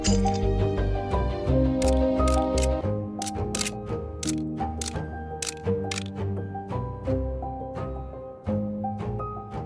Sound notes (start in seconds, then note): 3.2 camera shutters clicking